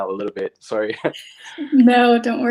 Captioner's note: laughs